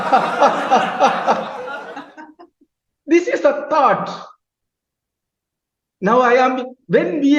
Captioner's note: laughing